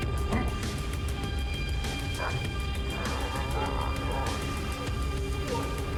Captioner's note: mellow upbeat music; blows thudding; both grunting